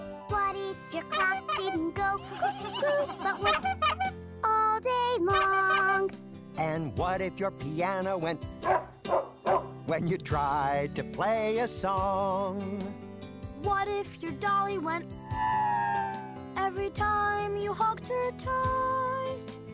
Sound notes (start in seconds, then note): 4.0 honk, honk; 8.6 bark, bark, bark; 15.2 siren